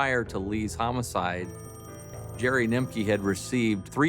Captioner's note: phone rings